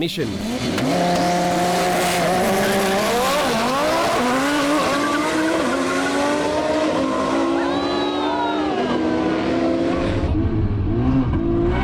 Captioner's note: car engines revving